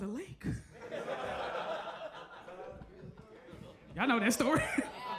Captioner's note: audience laughs